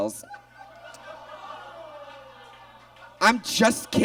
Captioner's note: audience laughs